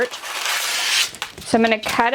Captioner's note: paper crumpling